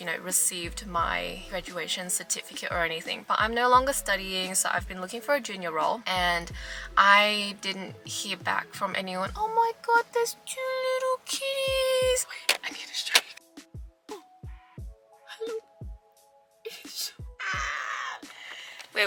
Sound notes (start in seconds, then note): 12.4 whispers; 16.7 giggles